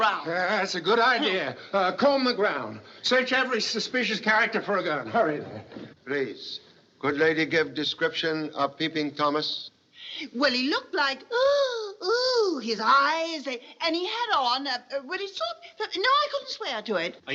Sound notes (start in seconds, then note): 11.6 shuddering